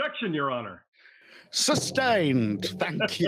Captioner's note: accidentally hits microphone